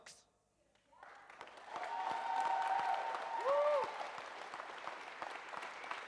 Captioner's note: audience cheers and applauds